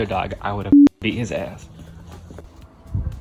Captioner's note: beep